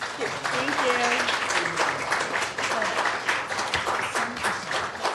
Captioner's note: applause